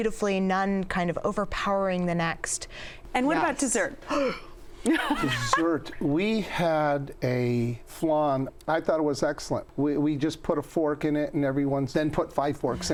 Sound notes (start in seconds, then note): 4.4 gasps; 4.9 laughs